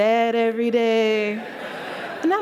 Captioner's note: sad voice